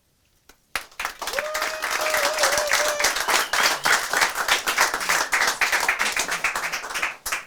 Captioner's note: audience cheers